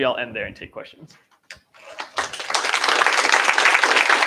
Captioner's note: applause